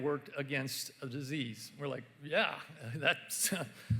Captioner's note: none